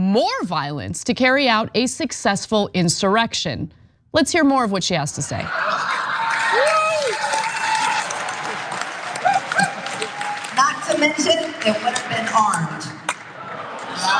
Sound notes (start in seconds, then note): 5.5 laugh; 5.8 applause